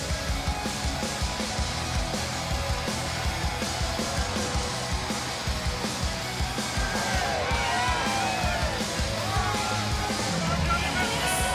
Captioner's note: crowd chatter